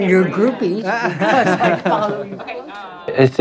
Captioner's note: all laugh